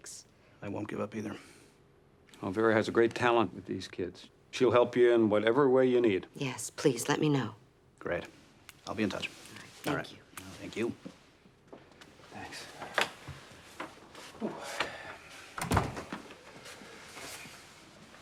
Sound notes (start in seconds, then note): 14.4 exhales